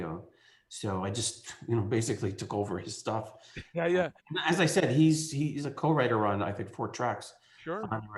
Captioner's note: laughs